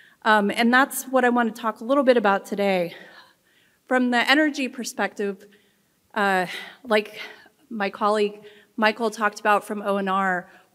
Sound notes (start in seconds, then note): none